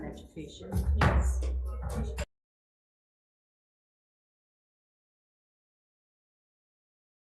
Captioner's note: gavel bangs